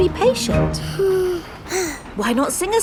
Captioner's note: both sigh